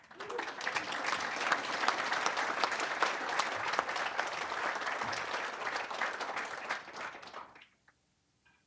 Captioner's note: applause